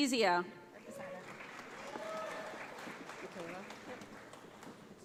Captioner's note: audience applauds